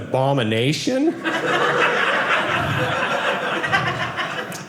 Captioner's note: audience laughing